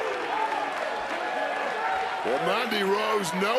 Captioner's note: crowd cheers